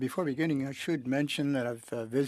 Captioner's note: speaking french